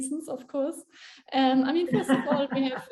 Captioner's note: laughs